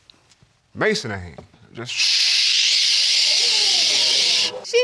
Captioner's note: shushing